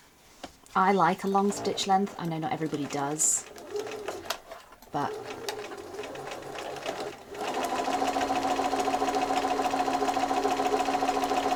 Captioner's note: machine whirring